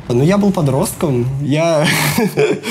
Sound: laughs

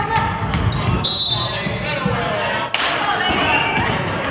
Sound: whistle blows

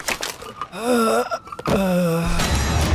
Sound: groaning

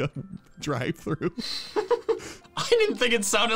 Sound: laughing

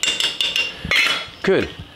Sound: spoon clinging

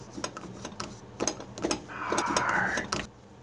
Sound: toilet paper dispenser making noise; whispers

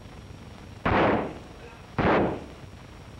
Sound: gunshots

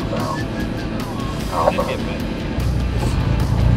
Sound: whistles

